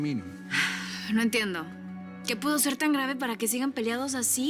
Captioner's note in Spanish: Suspiros